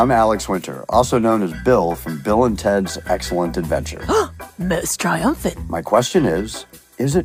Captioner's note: gasps